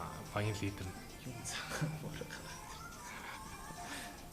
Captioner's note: giggles